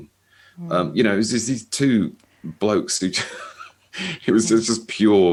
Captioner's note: chuckles